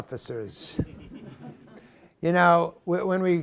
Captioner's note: laughter